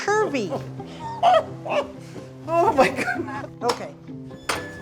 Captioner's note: chortling